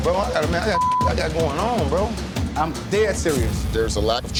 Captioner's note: beep